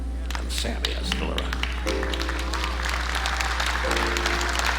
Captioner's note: audience applauding